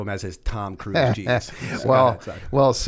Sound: chuckle

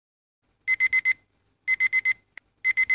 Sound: alarm

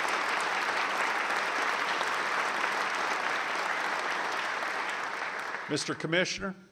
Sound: applause

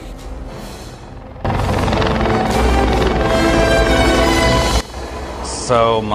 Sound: helicopter motor running

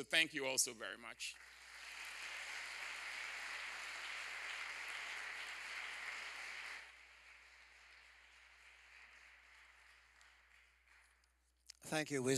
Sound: applause

